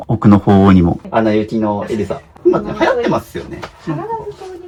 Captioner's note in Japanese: 笑い